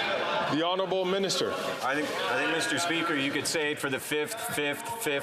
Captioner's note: chatter